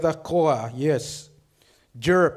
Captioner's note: speaks foreign language